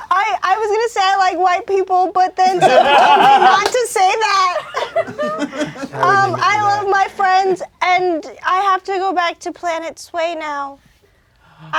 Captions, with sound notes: I was gonna say I like white people but then someone told me not to say that. (crowd laughing) I love my friends and I have to go back to planet Sue now.